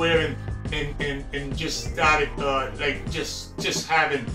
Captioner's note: stutters